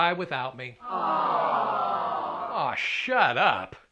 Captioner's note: crowd: Awww